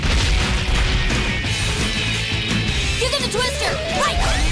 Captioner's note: thudding